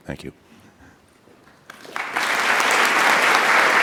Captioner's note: applause